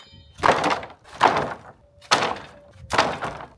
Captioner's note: saw buzzing; slabs thudding